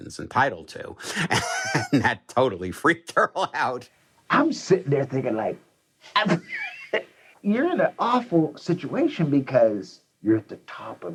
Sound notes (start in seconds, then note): 1.0 laughs